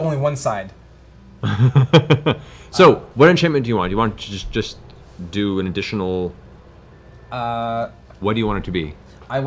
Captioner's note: laughs